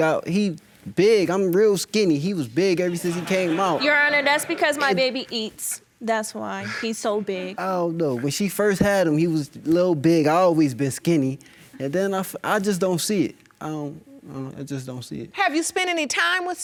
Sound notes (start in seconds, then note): 4.9 audience laughing